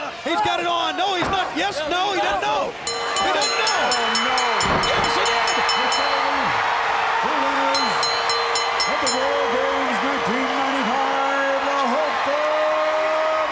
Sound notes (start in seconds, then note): 2.9 match bell rings; 5.8 crowd screaming